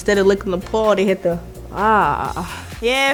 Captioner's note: roars